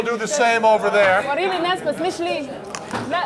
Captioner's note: non-english speech